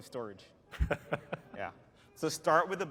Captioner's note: laughter